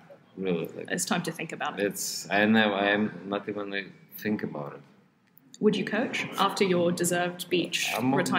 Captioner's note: none